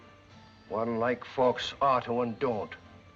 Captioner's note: none